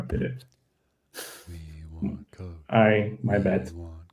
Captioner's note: chanting